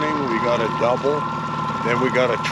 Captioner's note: boat engine running